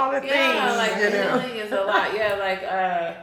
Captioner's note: chuckles